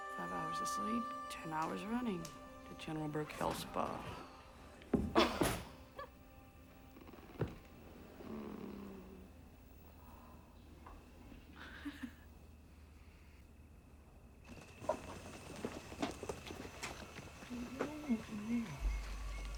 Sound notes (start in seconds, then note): 4.4 thud; 5.1 giggle; 6.7 groans; 11.4 chuckles